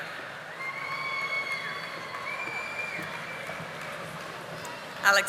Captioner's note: audience applauding